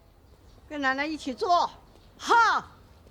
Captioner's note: in mandarin